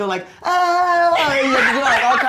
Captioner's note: Jeremy yelps